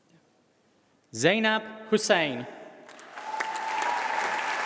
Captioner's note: applause